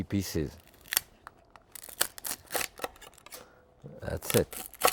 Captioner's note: shell cracks